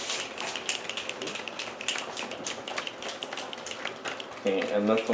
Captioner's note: snaps